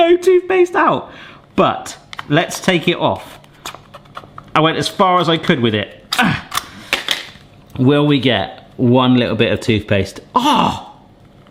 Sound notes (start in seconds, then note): 6.1 grunts